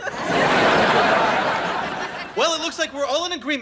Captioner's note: audience laughing